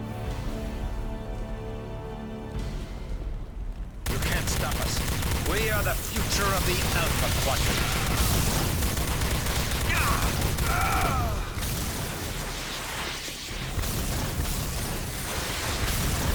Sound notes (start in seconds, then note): 0.2 dramatic music; 8.5 gun firing; 9.8 dramatic music; 14.1 gun firing